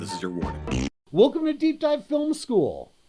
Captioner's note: blows raspberry